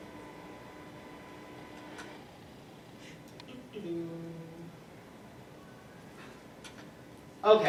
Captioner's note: hums while accessing next slide